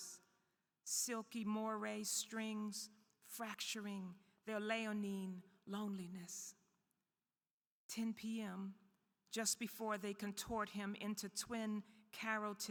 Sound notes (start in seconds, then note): none